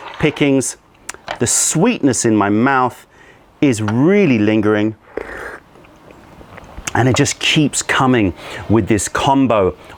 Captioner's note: sips tea